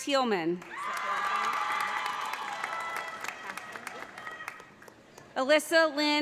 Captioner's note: audience applauding; audience cheering